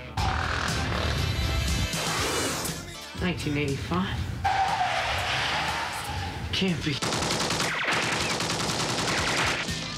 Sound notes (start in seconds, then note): 0.1 engine revs; 4.4 tires squealing